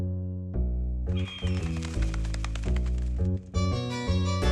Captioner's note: bird screech, flapping wings